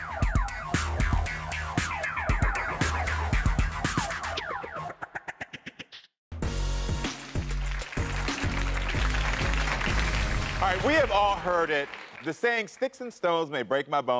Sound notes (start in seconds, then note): 6.3 upbeat music; 7.0 audience applauding